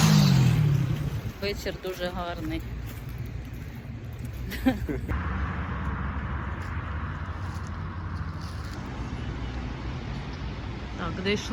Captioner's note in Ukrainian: сміх